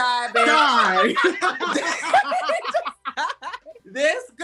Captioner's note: laughs